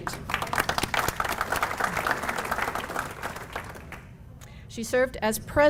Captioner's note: applause